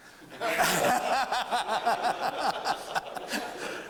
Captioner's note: laughter